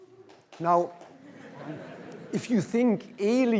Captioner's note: applause; laughter